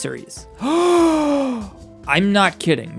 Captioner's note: gasps for air